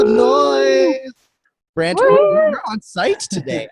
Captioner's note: cheering